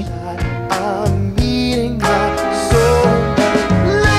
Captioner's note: engine rumbling